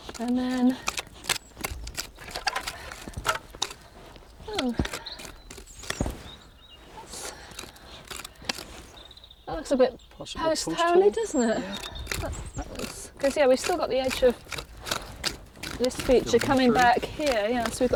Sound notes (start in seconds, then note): 0.0 shovel scraping